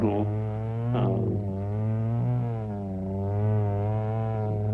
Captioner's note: saw buzzing